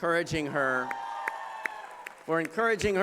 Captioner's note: applause